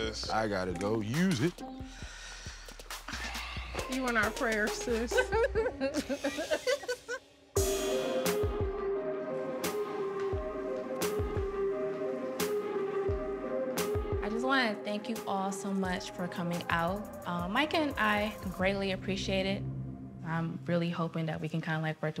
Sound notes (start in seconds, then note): 5.0 laughter; 7.7 suspenseful music